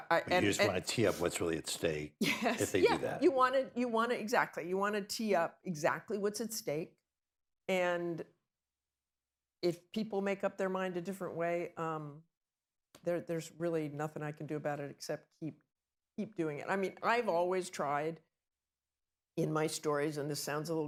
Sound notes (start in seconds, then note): 2.5 laughs